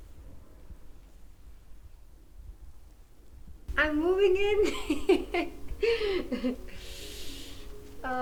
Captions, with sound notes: I'm moving in (laughs).